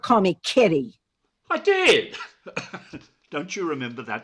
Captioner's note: harshly; chuckles